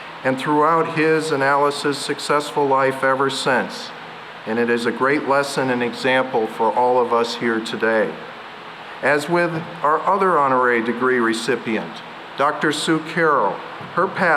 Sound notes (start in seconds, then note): none